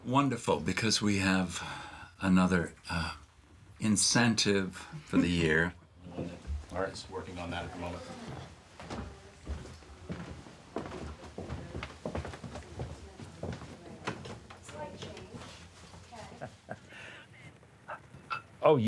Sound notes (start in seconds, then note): 9.3 footfalls echoing; 16.4 laughs